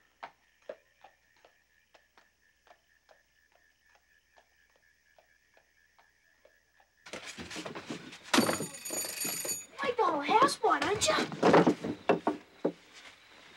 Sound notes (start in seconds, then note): 0.2 horse hooves clopping; 7.1 scuffling; 8.3 bell rings